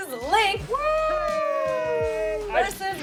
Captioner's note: cheering